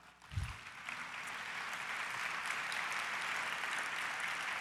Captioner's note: audience applause